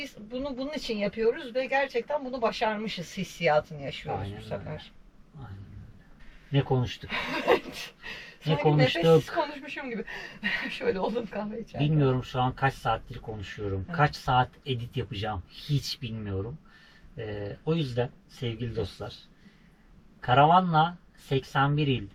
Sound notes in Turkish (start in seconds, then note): 9.8 kahkaha